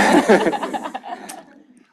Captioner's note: laughter